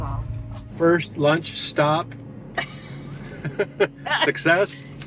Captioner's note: pair laughs